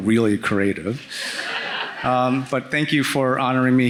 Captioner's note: audience laughing